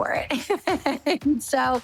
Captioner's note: laughs